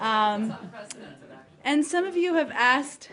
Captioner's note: laughter